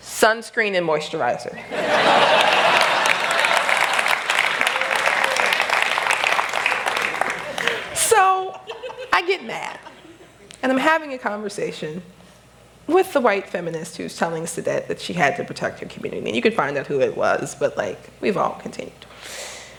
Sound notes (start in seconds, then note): 1.7 laughter; 2.0 applause